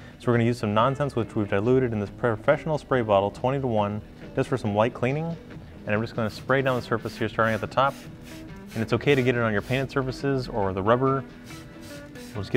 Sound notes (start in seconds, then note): 7.0 spritzing